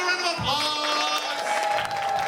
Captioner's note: clapping and cheers